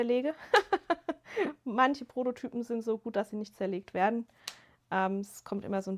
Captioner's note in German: gelächter